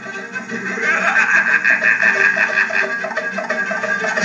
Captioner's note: laughing